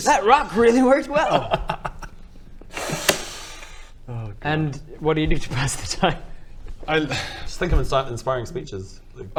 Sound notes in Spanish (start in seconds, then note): 3.1 golpe; 7.1 suspiro